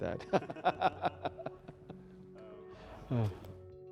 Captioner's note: laughs